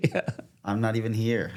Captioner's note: laughing